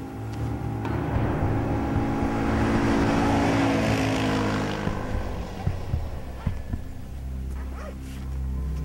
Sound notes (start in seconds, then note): 0.4 vehicle passes loudly